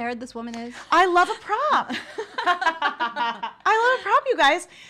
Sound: laughter

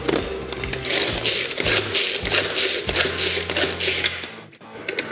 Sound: machine whirring

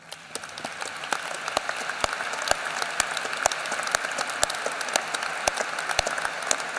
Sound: applause

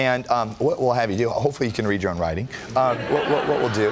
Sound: laughter

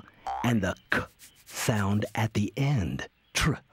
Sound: makes short "u" sound; sounds out "ck"

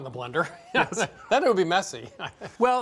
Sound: laughs

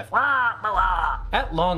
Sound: caws grumpily

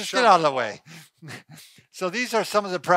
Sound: chuckling

